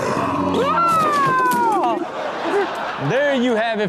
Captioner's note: man screams